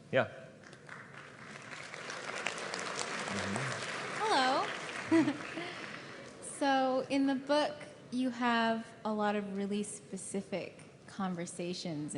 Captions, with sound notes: >> Yeah. [ Applause ] >> Hello, [laughter]. So in the book you have a lot of really specific conversations